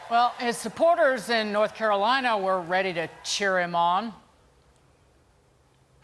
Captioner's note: applause